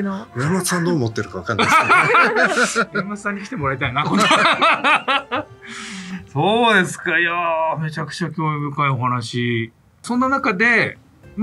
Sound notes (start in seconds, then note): 1.0 laughs